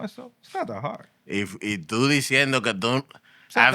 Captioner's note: non-english Speech